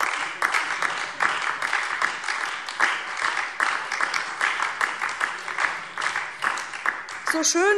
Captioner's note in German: Beifall DIE LINKE und Freie Demokraten